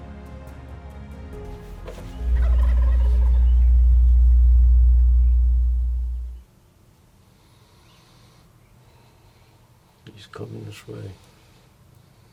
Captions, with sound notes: (turkey gobbling) - He's coming this way.